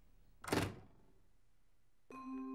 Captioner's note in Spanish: la puerta se cierra; música intrigante